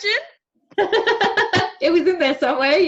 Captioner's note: laughing